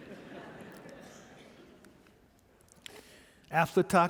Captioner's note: audience laughing